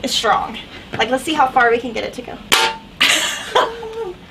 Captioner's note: laughs